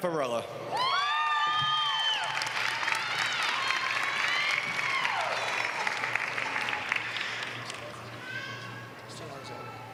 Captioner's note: applause